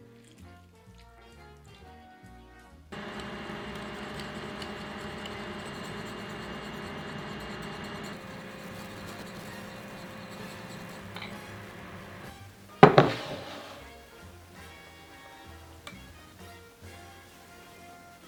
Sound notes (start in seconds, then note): 2.9 burner humming; 4.2 whisking